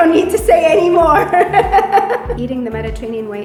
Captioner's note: laughs